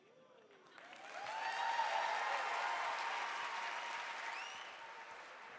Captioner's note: audience cheering